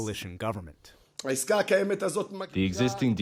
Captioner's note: through translator